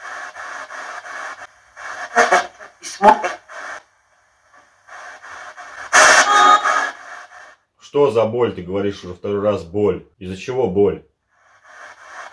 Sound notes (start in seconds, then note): 3.3 female spirit voice; 6.2 female spirit voice